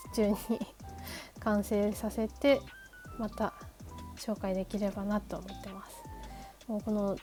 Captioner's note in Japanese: 笑い